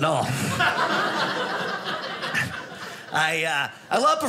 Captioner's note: audience laughing